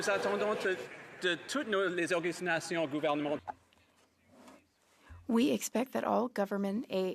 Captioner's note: some Applause